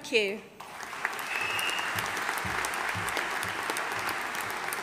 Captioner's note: audience applauding